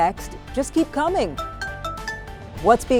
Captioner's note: phone ringing